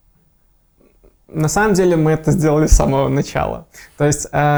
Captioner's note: laughing